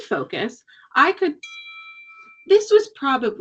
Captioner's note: cellphone chimes